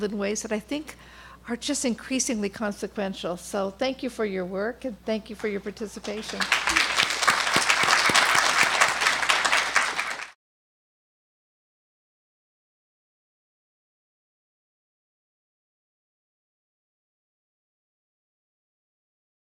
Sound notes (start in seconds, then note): 6.1 audience applauding